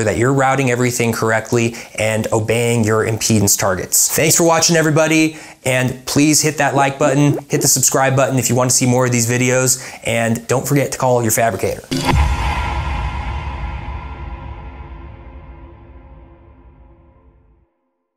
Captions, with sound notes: that you're routing everything correctly, and obeying your impedance targets. Thanks for watching everybody, and please hit that like button, hit the subscribe button if you want to see more of these videos, and don't forget to call you fabricator. (loud, deep tone fades out)